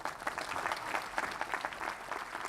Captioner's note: applause